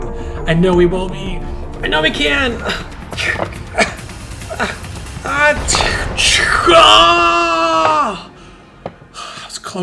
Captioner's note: yelling